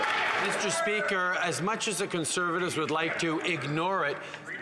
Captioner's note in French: Some Applause